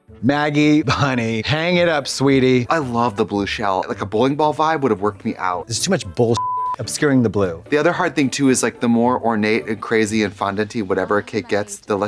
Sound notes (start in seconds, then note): 6.3 beep